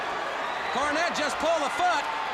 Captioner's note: crowd cheering